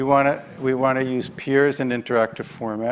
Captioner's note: none